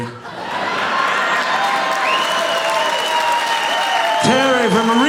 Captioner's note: audience cheering